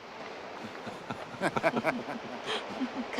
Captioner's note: cyril and hugh laugh